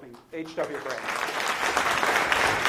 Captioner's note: applause